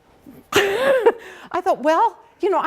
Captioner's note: laughing